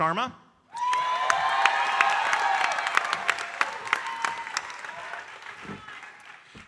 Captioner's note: audience cheering and applauding